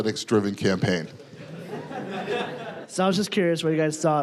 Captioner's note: audience laughing